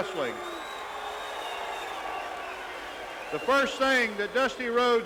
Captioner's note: crowd cheering